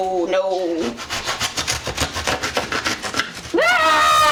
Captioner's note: cutting; screaming